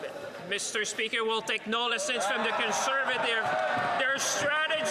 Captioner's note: some Applause